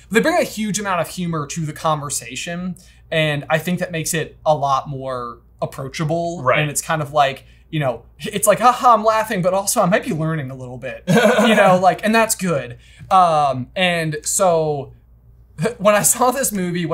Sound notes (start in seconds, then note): 11.0 laughing